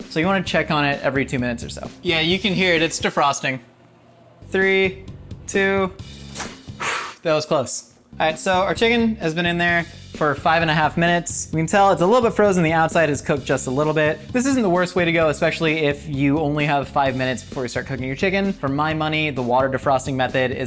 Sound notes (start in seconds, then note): 6.3 opening microwave